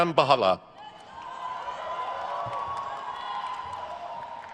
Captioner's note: crowd cheers